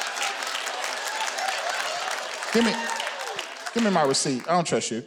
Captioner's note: audience laughing; audience clapping